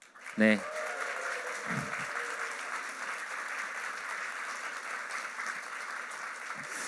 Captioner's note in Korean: 박수